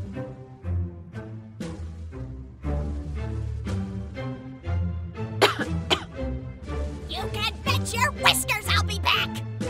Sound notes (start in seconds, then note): 5.4 cough